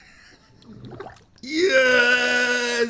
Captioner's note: laughs; water bubbling